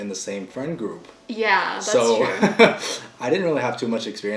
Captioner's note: laughing